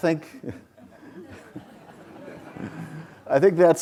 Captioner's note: audience laughs